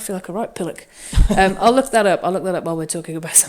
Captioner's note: chuckles